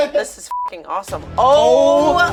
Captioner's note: beep